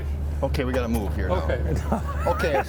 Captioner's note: laughs